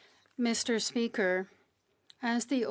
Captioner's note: speaking French